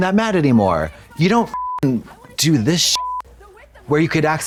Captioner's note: beep